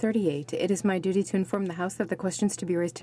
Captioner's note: speaking in French